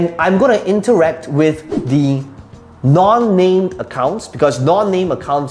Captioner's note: air whooshing